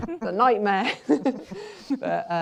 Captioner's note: laughter; chuckles